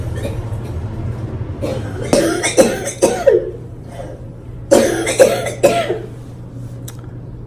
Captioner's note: coughing